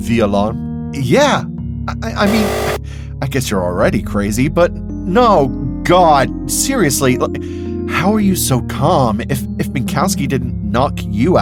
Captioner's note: buzzer